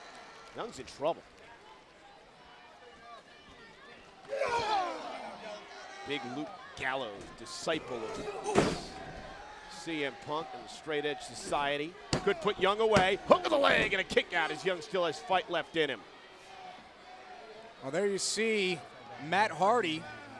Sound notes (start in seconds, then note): 4.7 crowd chatter